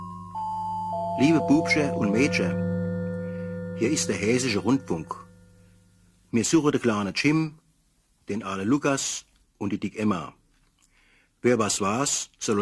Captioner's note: following in Hessian accent